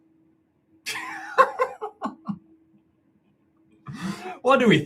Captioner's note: laughing